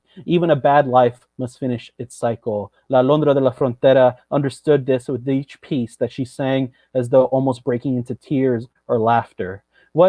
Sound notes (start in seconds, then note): none